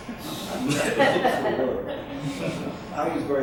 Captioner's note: crowd laughs